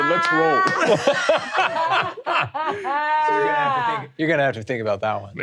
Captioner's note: all laughing